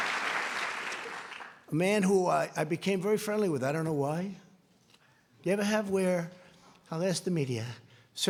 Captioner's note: applause